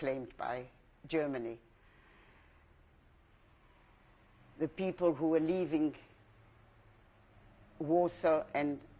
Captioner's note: pauses for 3 seconds